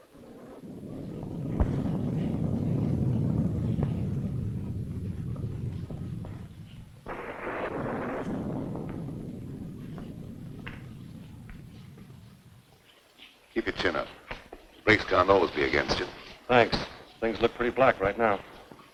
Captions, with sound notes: (thunder rumbling) (rain pattering) - Keep your chin up. Grace can't always be against ya. - Thanks. Things look pretty black right now.